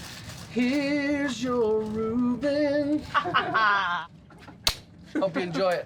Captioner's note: laughter